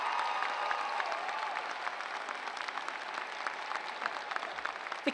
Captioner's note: cheers